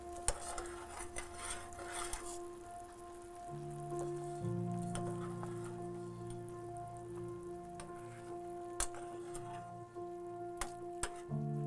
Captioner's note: soft piano music playing; stirring and simmering sounds